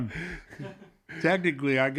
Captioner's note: laughs